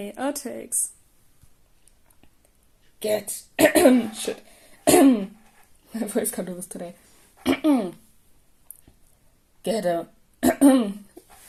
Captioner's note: cough